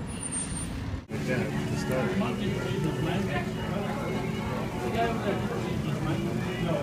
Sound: car screeching; background talking

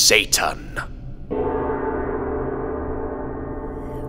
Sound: bell tolls

